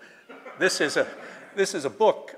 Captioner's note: laughter